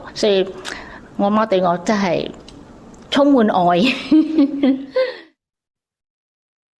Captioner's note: laughs